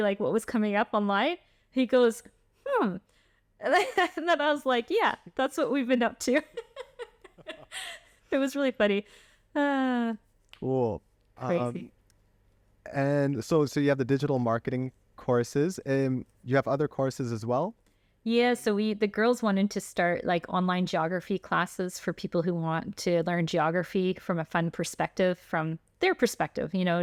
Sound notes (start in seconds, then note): 3.7 laughter; 6.4 laughter